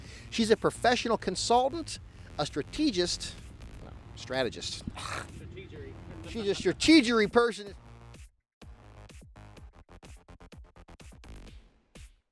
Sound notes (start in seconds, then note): 4.6 scoffs; 8.5 upbeat music